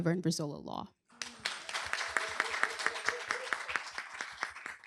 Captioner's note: applause